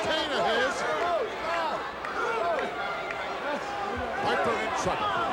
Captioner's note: audience shouting